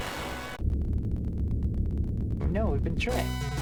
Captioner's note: earthquake sounds